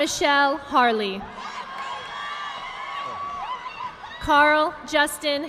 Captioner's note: audience clapping